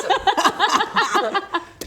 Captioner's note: optimistic laughter